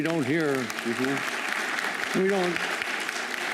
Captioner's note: applause